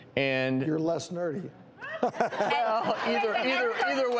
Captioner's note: laughing